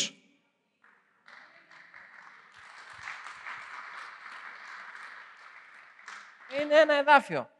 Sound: applause

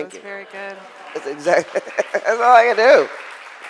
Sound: crowd applauds

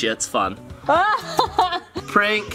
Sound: laughing

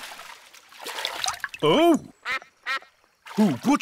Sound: quacks

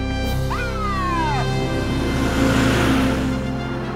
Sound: siren Wails

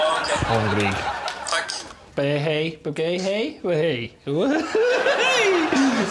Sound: speaking Swedish

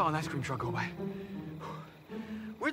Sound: exhales

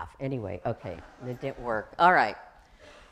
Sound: laughs

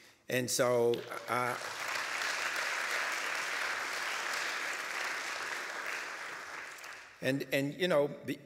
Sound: applause

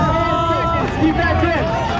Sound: cheering

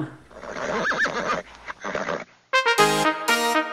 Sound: …Horse neighing…

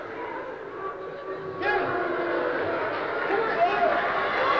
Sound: booing

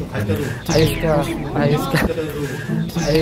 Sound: sarcasm

